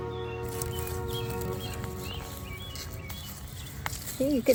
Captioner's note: nats digging